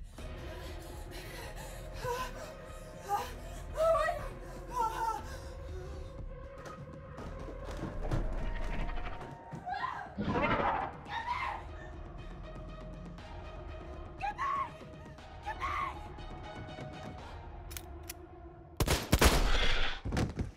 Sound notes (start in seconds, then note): 0.2 climactic music; 8.5 dinosaur growls; 18.8 gun fires